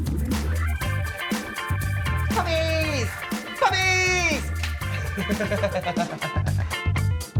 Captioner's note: hands slapping